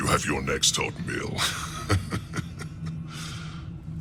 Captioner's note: laughing